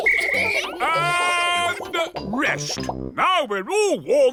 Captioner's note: blows whistle